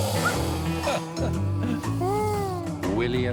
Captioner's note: growling; laughs